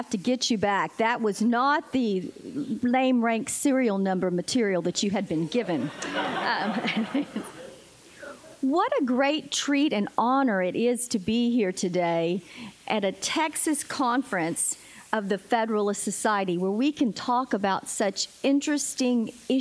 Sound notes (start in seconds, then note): 5.7 laughter